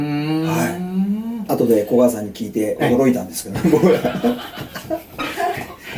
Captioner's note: laughs